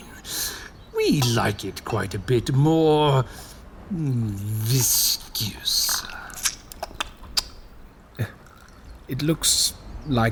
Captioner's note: Sounds of wine pouring, Drechen slurping